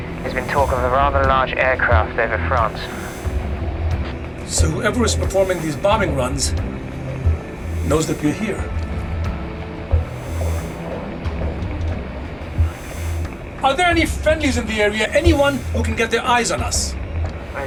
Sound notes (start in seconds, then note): none